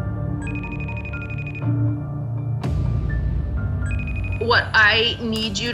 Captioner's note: dramatic music; beeping